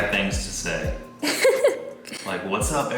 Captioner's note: laughing